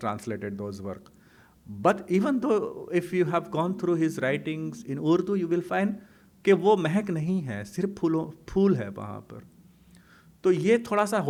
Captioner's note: hindi